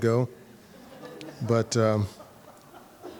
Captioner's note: audience laughing